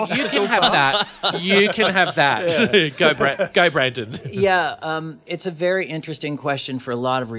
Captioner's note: laughs